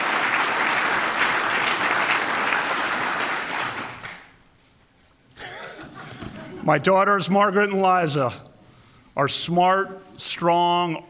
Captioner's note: applause